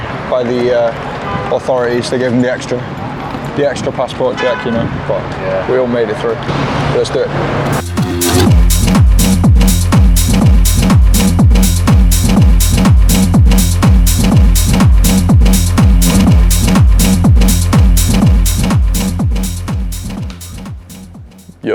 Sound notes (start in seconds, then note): 4.3 car honks; 7.9 upbeat house music; 19.8 upbeat house music fades out